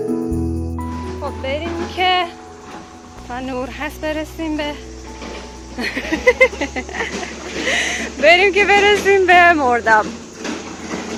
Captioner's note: laughter